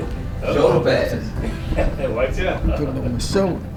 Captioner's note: laugh